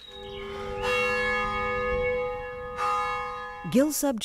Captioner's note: bell chimes